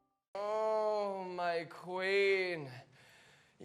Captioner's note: groans